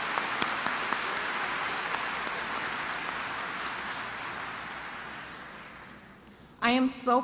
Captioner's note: applause